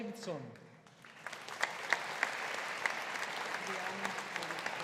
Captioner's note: audience applauding